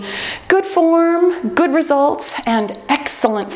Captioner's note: timer beeps